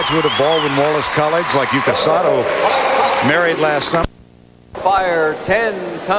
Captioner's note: crowd Cheering